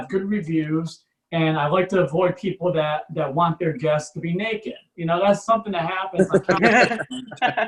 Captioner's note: audience Laughs